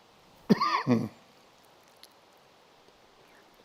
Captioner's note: coughs